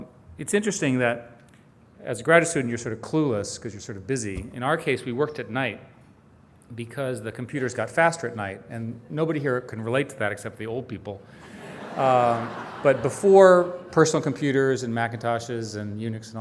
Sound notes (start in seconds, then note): 11.4 audience laughing